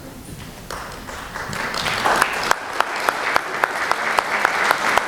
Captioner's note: applause